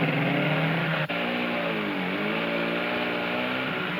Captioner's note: engine roaring